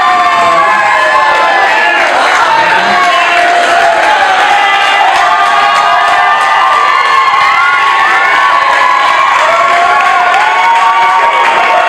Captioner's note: laughter and clapping